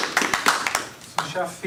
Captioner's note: audience applause